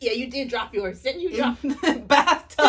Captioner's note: laughter